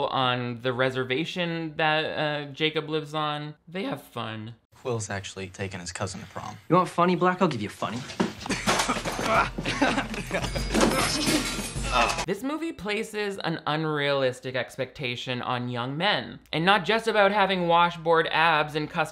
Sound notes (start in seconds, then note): 8.4 Quil laughing; 8.4 Jacob laughing; 9.8 metal clattering